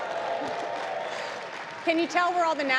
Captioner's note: applause